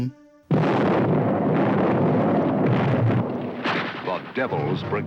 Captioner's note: explosions; voiceover